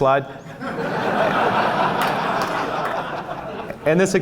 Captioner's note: laughs, claps